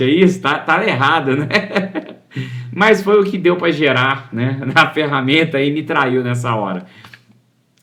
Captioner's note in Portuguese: risadas